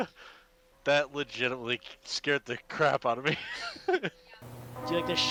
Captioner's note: nervous laughter